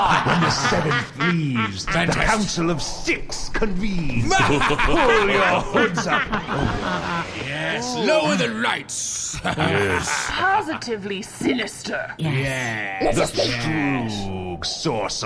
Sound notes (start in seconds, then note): 0.0 everyone cackles; 4.3 evil cackling